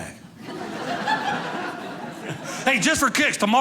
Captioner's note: audience laughing